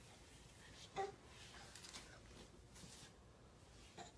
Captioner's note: babbles